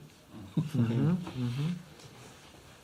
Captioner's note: laughs